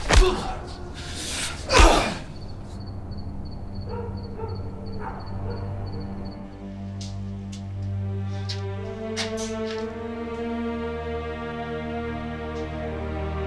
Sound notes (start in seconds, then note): 2.5 ominous music; 3.6 distant dog barking; 7.0 dramatic instrumental music